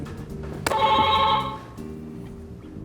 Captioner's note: buzzer beeping